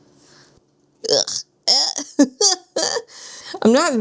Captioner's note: exaggerated noises